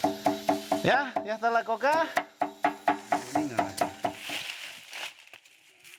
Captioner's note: speaking in foreign language